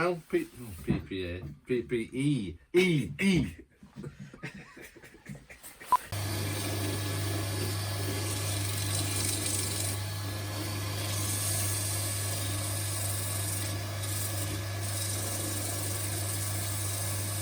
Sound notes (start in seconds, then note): 6.1 lathe noise